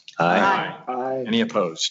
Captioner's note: multiple voices